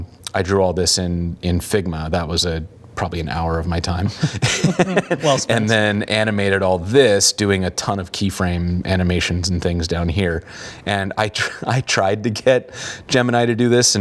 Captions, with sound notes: I drew all this in Figma. That was probably an hour of my time. (laughing) And then animated all this, doing a ton of key frame animations and things down here. I tried to get Gemini to do this